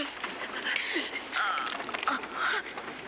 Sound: groaning

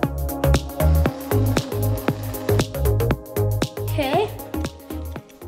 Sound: whipped cream can spraying

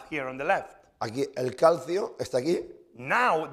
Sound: speaking spanish

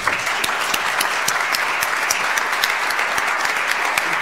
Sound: audience applauds

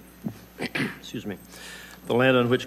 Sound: clears throat

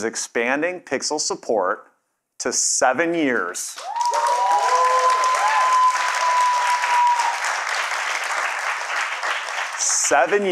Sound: cheers and Applause

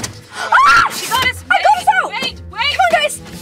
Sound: screams

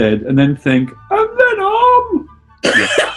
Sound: high pitched; laughing

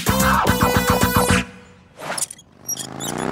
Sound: swing squeaks

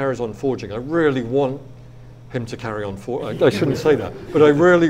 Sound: audience laughs

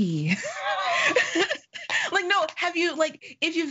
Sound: laughing

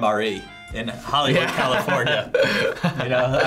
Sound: laughs

